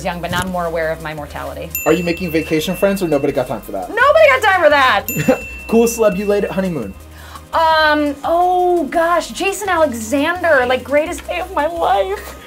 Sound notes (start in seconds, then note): 1.7 ding